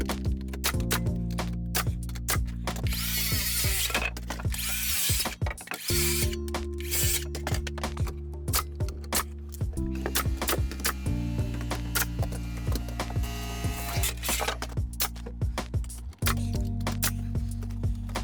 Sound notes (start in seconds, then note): 0.0 gentle music; 0.3 nails clicking; 2.8 saw whirring; 8.3 nails clicking; 13.7 saw whirring; 15.4 nails clicking